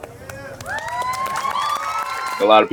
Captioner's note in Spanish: audiencia aplaudiendo